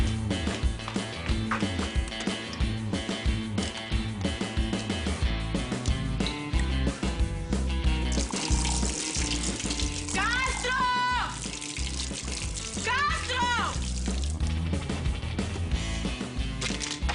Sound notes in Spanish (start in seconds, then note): 8.0 Sonido al tirar agua